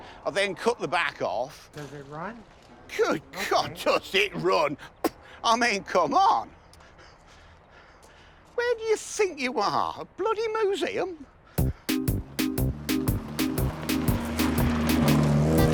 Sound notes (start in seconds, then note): 4.7 scoffing and spitting; 11.6 silly music